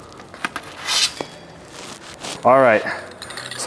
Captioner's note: metal scraping